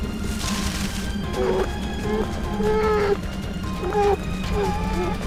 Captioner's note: polar bear whining